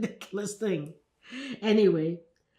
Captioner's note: laughing